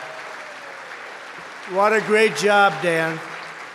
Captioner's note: applause